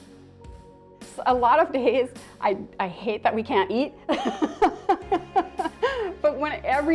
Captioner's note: laughs